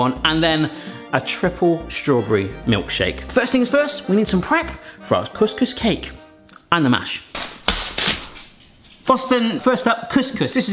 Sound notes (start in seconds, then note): 7.3 hand slaps